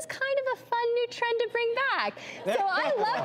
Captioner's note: audience laughs